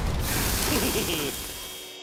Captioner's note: chuckles